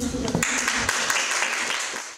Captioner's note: audience chuckles and applauds